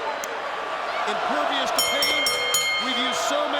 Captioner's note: bell ringing